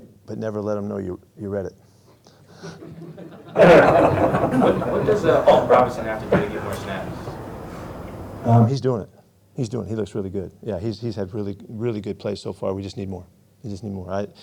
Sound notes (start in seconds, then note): 2.6 laughing